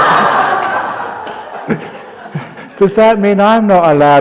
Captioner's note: laughter